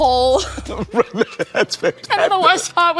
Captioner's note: laughing